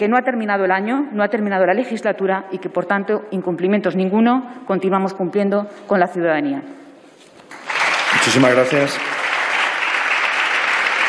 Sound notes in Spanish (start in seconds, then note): 7.4 Aplausos